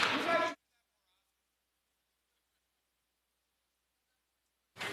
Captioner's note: some Applause